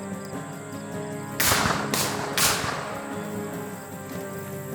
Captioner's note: gunshots booming